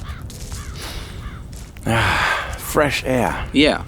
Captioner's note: inhales